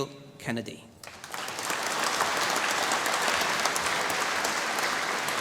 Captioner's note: applause